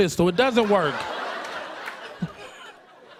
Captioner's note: laughter